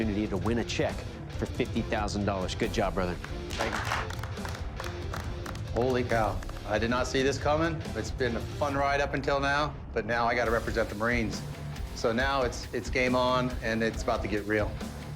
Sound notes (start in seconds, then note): 3.2 applause